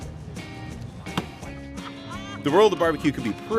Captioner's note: laughing